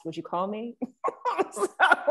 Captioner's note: laughs